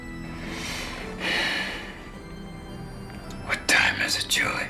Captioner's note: sighing